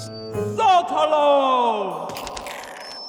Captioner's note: voice speaking gibberish